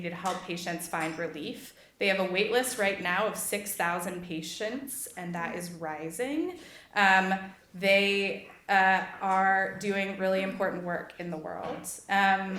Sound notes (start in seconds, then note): none